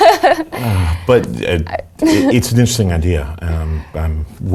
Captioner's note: laugh